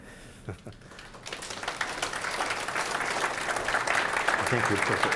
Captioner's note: audience applauding